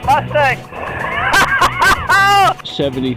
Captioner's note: laughing